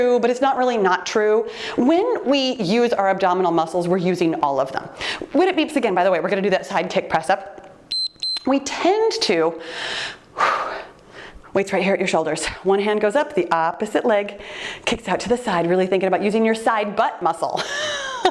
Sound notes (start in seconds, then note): 7.9 timer beeps; 10.1 puffing air; 18.1 laughing